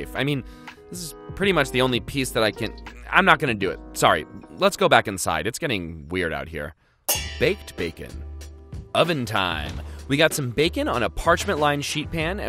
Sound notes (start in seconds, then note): 7.1 pans clanging